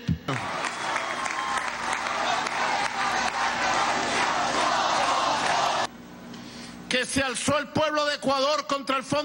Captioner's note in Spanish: aplauso